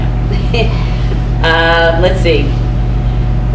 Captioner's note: laughs